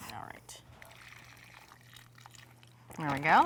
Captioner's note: liquid sloshing